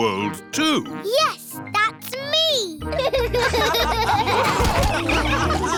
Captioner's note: all laughing